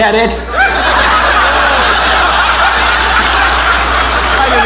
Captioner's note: audience laughing and applauding